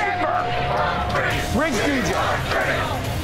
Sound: patrons chanting

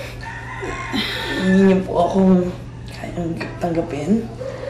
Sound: sighs

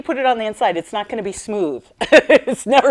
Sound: laughing

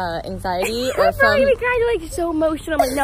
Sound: laughs

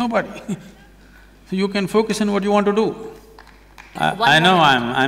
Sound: applause

